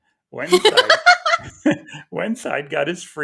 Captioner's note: laughing